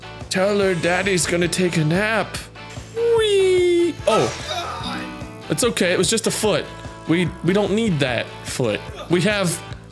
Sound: none

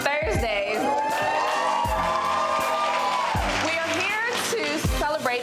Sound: crowd cheering

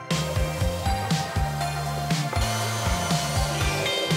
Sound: driller whirring

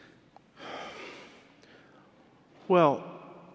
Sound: interpreter sighs

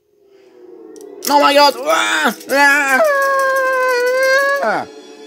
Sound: screaming

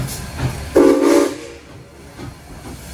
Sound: steam whistle blowing

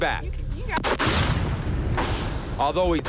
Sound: gunfire

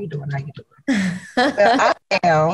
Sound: chuckles softly

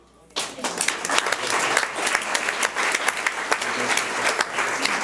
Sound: audience applauds

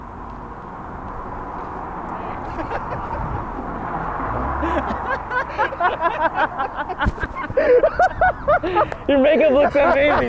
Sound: laughing

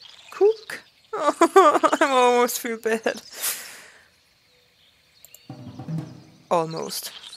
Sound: laughs

